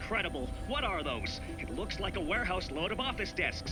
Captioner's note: none